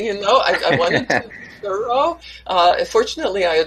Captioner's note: laughs